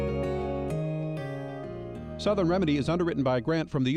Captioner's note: voiceover